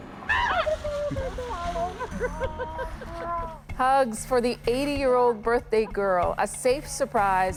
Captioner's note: laughter